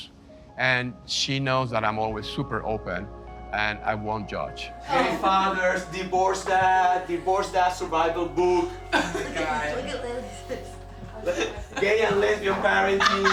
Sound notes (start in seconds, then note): 8.8 laughter